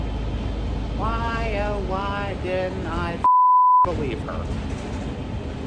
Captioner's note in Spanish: pitido